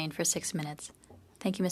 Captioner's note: speaking French